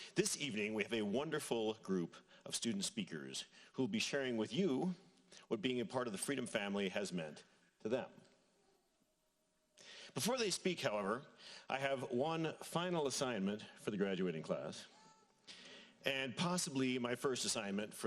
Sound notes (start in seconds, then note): none